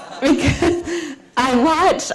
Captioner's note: laughter